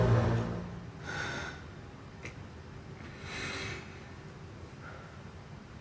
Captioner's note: Billy deeply breathing